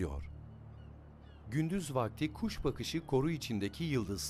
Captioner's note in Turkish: Martı sesi